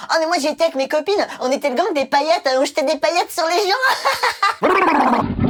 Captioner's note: laugh